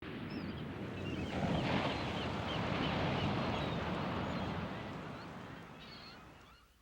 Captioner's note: waves crashing; birds chirping